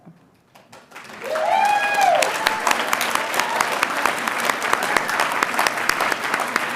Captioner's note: audience cheering and applauding